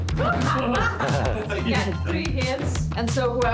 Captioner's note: laughter